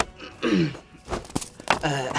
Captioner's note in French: Tousse